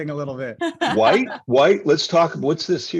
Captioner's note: laughing